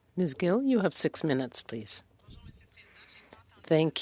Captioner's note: speaking French